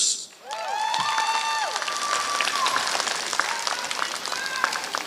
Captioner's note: applause